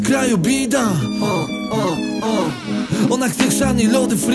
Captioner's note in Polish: bida piszczy